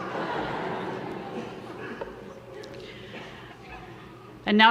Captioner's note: audience laughter